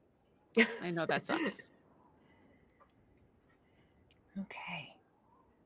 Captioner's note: chuckles